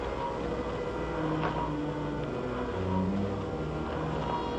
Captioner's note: mechanical rumble